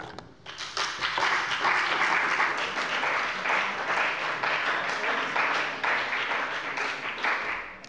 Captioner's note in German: Beifall bei dem BÜNDNIS 90/DIE GRÜNEN und der CDU